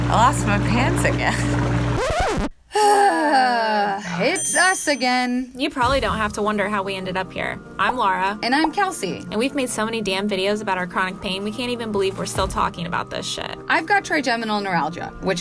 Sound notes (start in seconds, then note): 1.5 chuckles; 1.9 record scrapes; 2.7 sighs